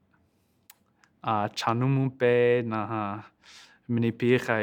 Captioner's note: speaking Lakota